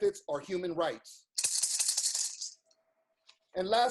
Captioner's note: rattles